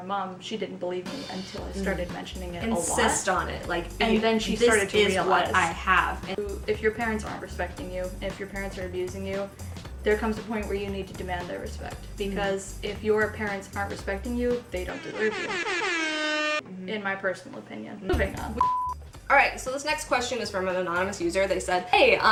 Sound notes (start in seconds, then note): 15.0 air horn